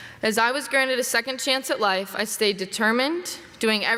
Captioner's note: none